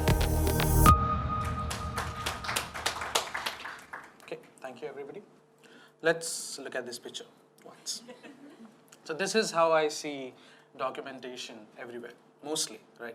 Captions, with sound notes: (audience applauding) - Okay, thank you everybody. Let's look at this picture once. So this is how I see documentation everywhere, mostly.